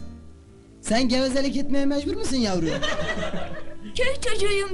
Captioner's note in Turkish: kahkaha